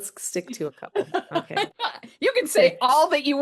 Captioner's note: laughs